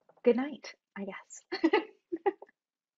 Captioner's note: chuckles